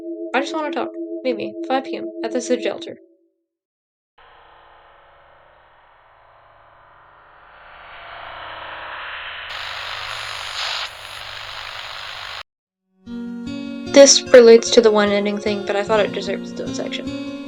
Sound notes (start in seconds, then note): 4.5 crt sfx; 9.0 static SFX